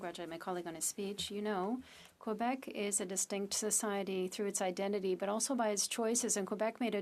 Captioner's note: speaking French